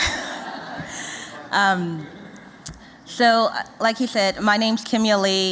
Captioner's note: laughter